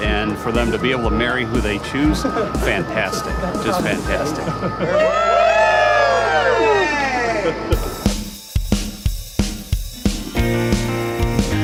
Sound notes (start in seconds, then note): 5.1 crowd cheers; 8.1 upbeat music